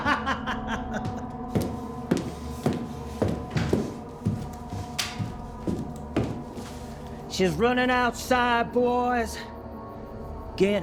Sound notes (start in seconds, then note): 0.2 pensive music continues; 0.9 footsteps plodding